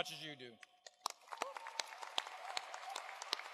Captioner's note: applause